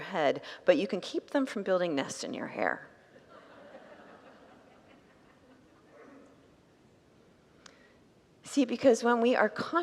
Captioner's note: congregants laugh